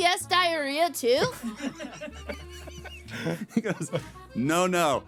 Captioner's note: laughing